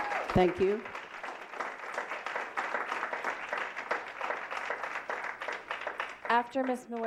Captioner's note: applause